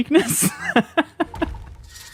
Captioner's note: laughs